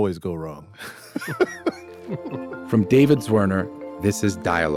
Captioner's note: laughing